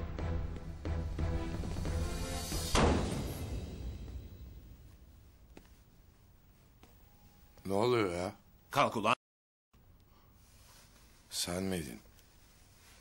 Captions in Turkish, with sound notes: [ KAPI KAPATMA SESİ ] Ne oluyor ya, Kalk ulan. Sen miydin.